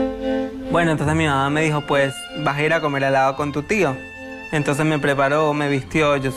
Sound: speaking in foreign language

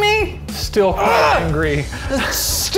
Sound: groans

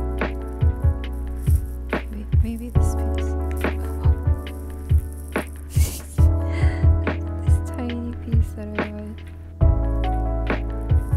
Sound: gasp

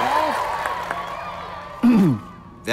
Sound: clears throat

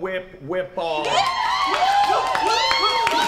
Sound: cheering

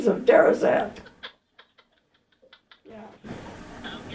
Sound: laughing on phone

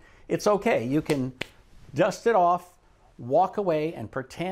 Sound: claps

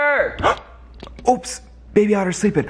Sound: gasping

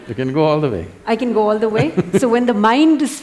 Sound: Sadhguru Laughs

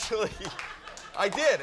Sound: Howie chuckling

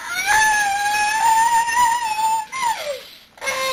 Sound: crying

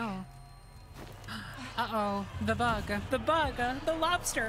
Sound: gasp

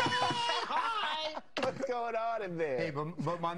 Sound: Knocking

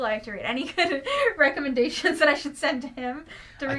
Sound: laughs

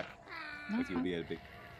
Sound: goblin cries

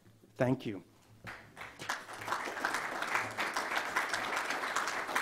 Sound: audience applauds

